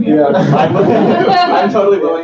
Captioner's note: laughter